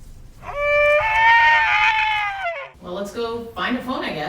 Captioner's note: high-pitched wailing